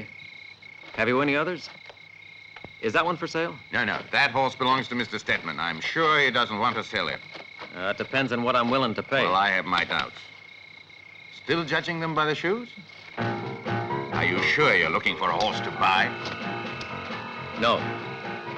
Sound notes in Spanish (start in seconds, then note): 9.1 titubea